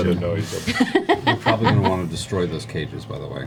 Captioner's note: laughs